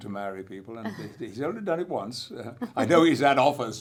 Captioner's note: laughs